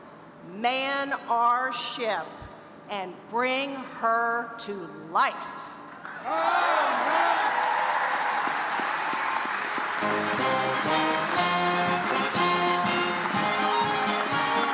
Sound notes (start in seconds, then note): 9.6 audience applauding